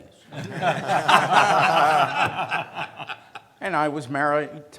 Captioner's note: laughs